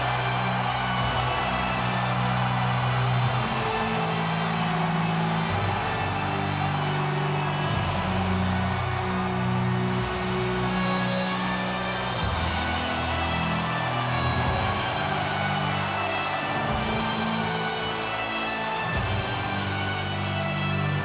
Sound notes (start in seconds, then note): 13.3 audience continues cheering; 17.4 ominous music continues